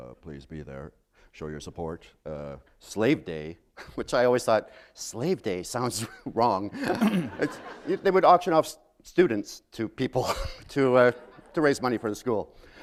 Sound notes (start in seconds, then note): 6.7 laughter